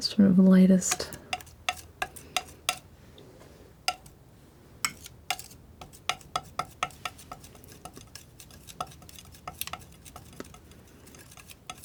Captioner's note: tapping